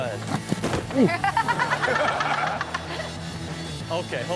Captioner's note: laughs